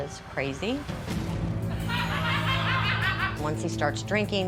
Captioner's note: people laughing